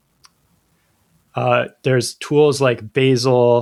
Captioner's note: uh